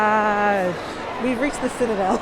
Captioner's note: laughter